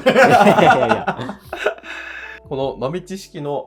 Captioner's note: laughing